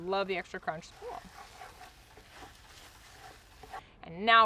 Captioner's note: stirring mixture